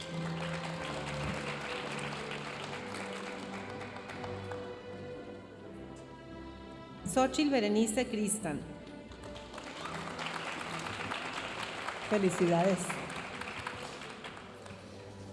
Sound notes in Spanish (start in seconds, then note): 0.0 aplausos de la audiencia; 9.2 aplausos de la audiencia